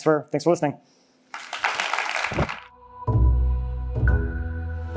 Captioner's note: applause